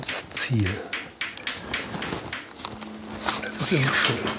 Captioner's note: knocking in the background